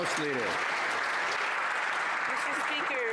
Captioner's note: some Applause